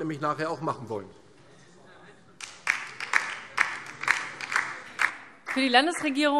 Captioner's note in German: Beifall DIE LINKE